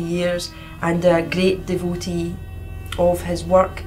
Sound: sound of poetry police helicopter circling

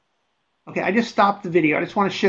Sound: voiceover

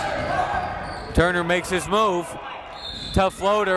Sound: whistle

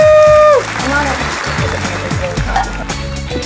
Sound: applause

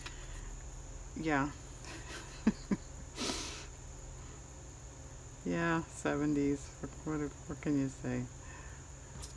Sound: laughs

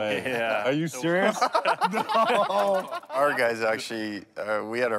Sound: everyone laughing

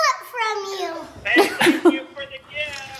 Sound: laughing

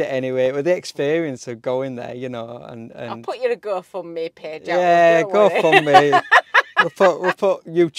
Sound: laughing

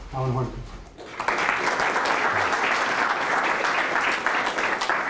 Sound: applause

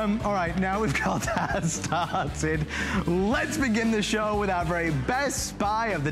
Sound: laughter

